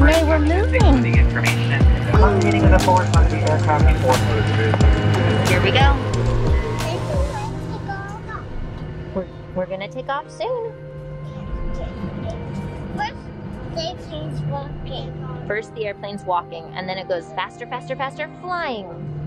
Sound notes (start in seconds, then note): 0.0 flight attendant chatters